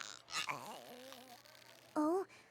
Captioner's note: spits; sighs